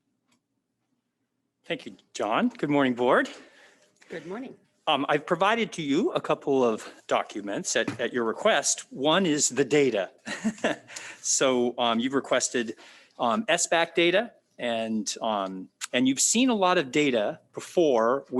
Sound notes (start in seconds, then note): 10.2 chuckles